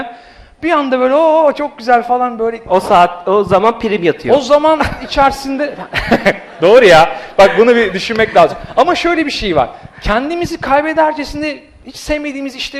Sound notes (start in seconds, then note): 5.5 laughs